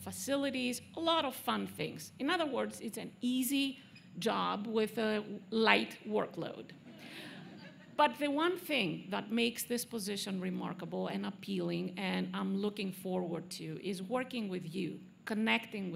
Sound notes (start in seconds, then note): 4.9 laughter